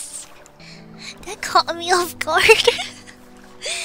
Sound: laughs

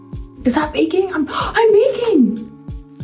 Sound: Madelyn gasps

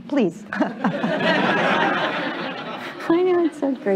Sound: laughter

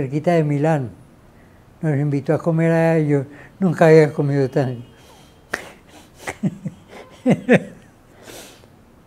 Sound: laughs

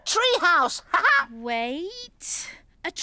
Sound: Iver laughs

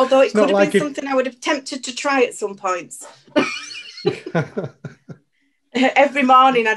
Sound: laughs

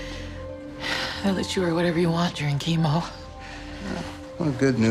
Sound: sighs

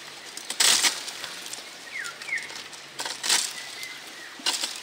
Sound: birds sing

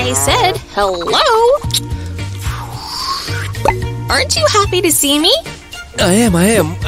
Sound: chewing gum and blowing a bubble

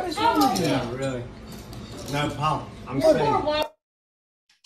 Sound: group chattering

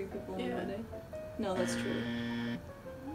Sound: incorrect buzzer

